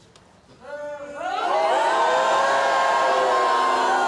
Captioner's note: booing